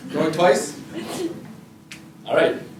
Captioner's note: audience laughter